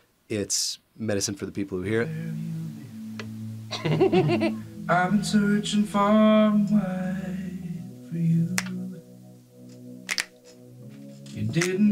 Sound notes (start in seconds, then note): 3.7 all laughing; 10.0 all snapping fingers